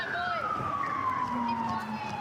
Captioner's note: sirens